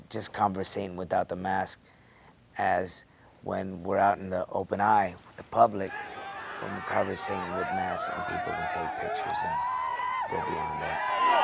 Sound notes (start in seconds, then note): 5.8 applause